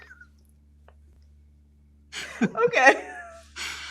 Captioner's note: both laugh